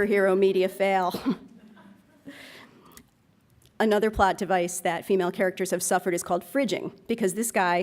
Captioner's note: laughs